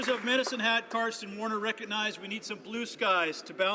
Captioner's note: some Applause